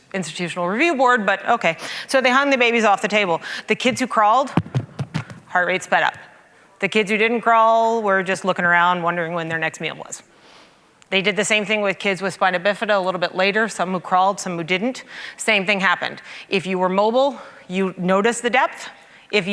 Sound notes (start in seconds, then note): 4.5 banging on mic